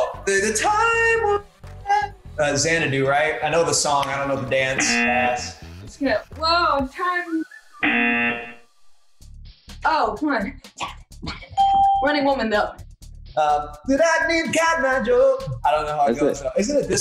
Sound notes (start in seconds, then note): 4.7 buzzer; 7.8 buzzer; 11.6 ding